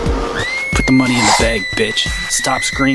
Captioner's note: girl screams